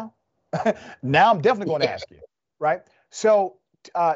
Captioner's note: laugh